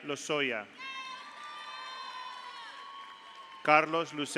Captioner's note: audience cheers; audience applauds